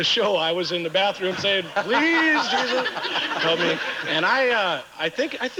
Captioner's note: audience laughing